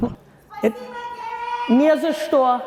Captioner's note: laughing; audience member yells in foreign language; Gary yelling in foreign language